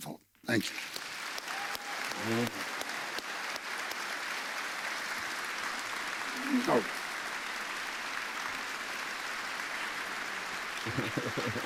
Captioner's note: applause